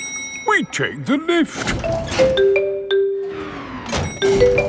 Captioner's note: elevator dings